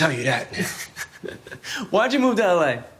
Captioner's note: laughing